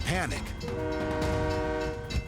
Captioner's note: train horn blaring